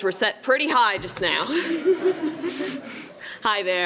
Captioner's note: laughs